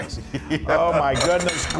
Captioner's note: laugh